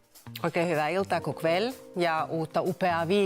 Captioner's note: in both Finnish and Swedish